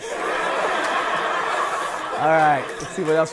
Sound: people laughing

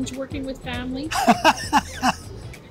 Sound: laughs

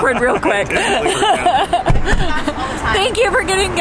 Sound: laughing

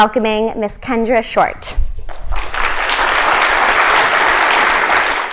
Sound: applause

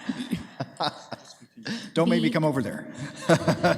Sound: group chuckles; laughs

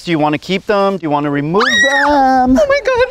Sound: screaming

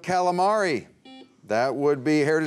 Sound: buzzer beeps

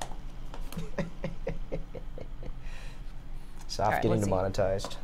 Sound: laughs

